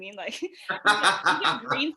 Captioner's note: laughs